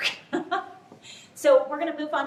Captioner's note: laughter